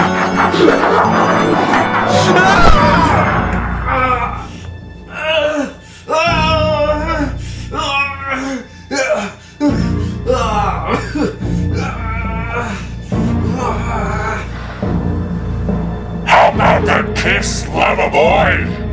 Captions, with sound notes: (Larry groaning) How about that kiss, lover boy?